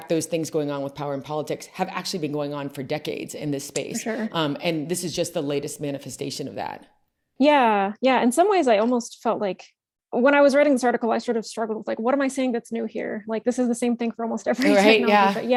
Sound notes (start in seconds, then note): 14.6 laughs